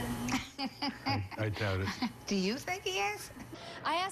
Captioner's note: laughter